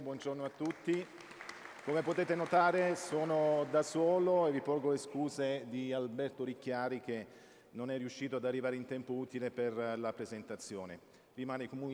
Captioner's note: speaking italian